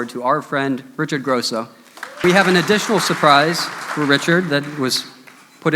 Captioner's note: applause